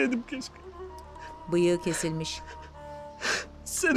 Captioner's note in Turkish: Ağlama sesi